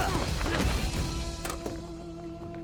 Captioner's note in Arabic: قتال، شخير; يفتح باب السيارة